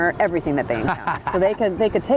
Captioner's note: laughs